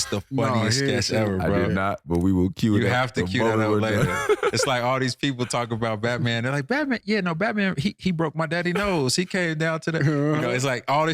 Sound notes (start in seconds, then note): 3.4 laughing